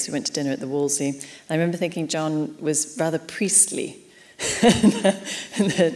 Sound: laughs

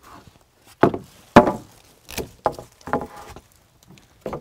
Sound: wood planks clanking

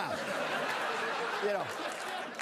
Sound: laughter

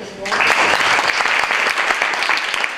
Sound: applause

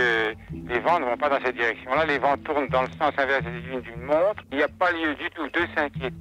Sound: french

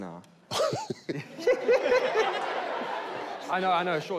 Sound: laughing

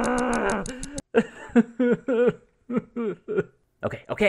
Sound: grumbling; sobbing

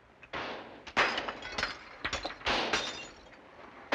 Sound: bullets piercing window

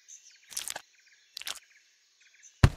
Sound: more squish

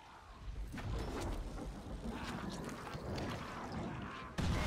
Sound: screaming and booming

